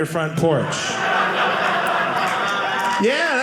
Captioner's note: audience laughing